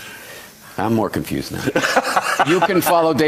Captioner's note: laughs